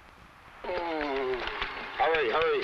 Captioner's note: man groans